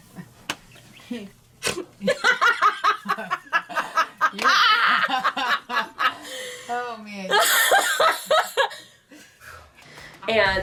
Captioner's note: delirious laughter